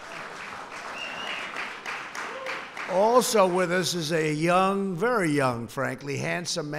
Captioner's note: applause